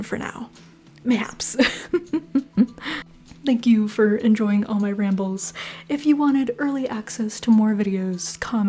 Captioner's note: laughter